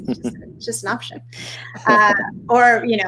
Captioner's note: laughing